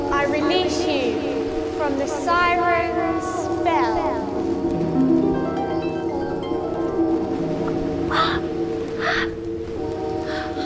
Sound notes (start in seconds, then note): 4.8 magic sound